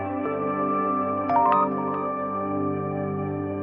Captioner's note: soft music; text sound; soft music